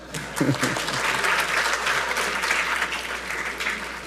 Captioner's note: audience applauding